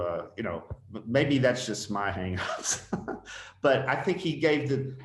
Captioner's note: laughs